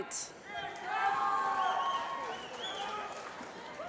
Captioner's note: applause